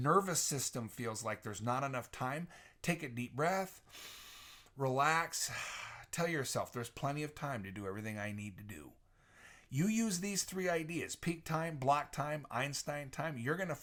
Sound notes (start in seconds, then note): 3.8 inhales; 3.8 exhales